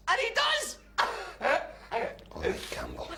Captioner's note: campbell laughing